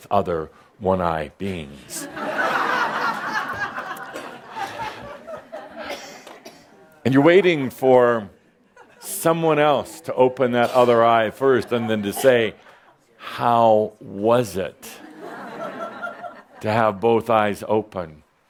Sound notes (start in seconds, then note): 1.9 laughter